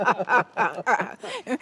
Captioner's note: laughs